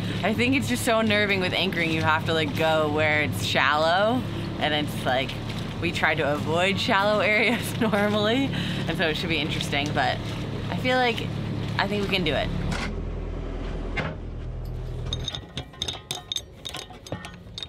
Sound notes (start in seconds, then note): 14.0 engine purring